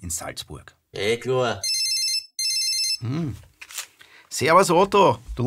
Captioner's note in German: Telefon läutet